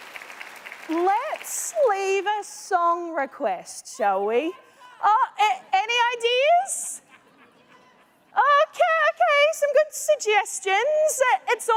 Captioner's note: applause